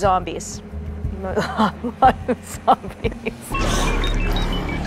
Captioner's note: laughs